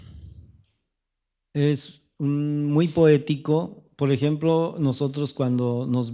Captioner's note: speaking spanish